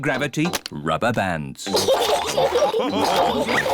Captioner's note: all laugh